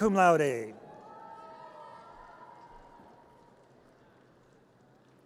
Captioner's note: audience cheers